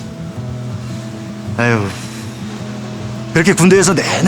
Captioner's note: sighs